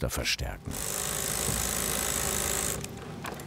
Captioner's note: machine rattling